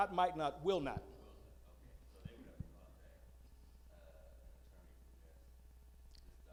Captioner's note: male audience member speaking